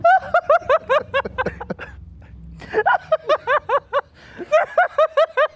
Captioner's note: laughing